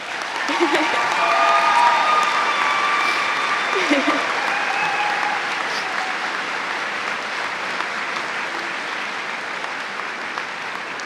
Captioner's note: cheers and applause